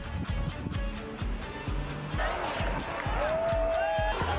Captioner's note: crowd noise; chanting